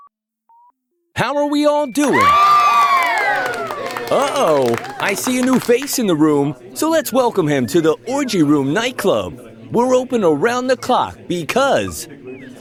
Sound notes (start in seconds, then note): 1.9 cheers